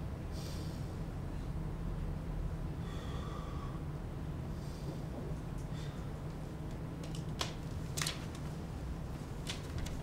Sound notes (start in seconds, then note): none